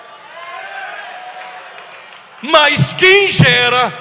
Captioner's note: applause